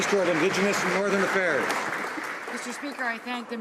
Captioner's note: applause